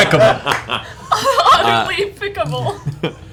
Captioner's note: laughter